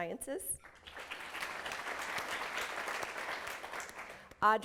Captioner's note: applause